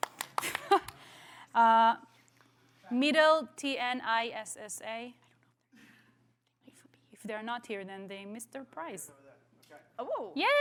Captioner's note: applause